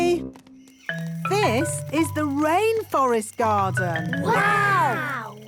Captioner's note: rainforest sounds